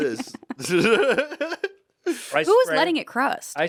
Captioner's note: Anthony laughs